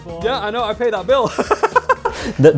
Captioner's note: laughs